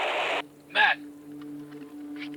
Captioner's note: radio squelch; Joey over radio